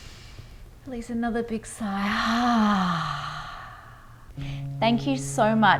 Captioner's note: sighs; guitar music